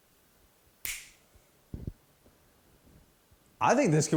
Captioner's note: fingers snapping